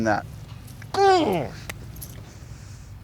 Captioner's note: grunts